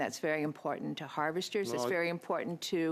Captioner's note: speaking French